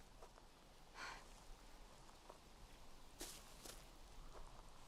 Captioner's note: Dylan sighs